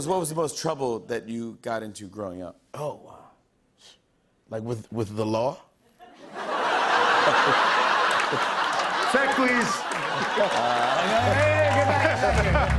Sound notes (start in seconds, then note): 6.0 laughter